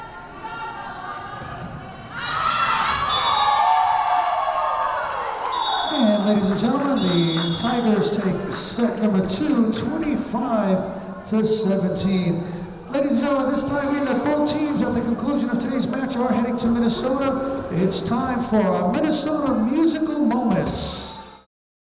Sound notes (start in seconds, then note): 2.3 Tigers cheering; 3.4 whistle blowing; 21.7 upbeat music